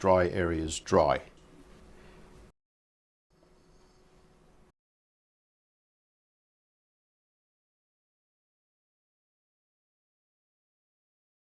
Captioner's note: silence